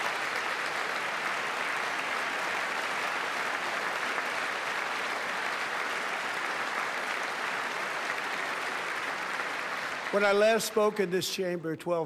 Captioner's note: applause